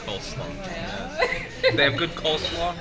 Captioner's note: laughs